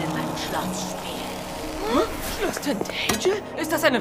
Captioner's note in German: Erstaunte Laute